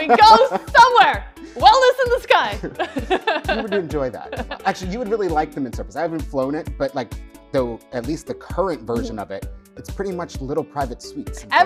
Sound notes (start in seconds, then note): 0.0 laughs; 2.6 laughs